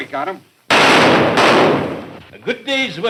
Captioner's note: guns firing